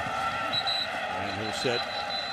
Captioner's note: whistle blows